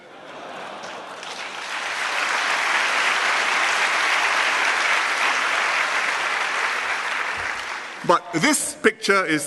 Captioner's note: laughter and applause